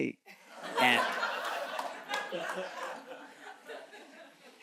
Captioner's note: audience chuckles